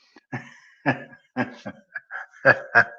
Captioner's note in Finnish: naurua